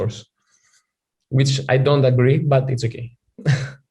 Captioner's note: chuckles